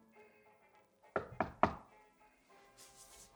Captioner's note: knocking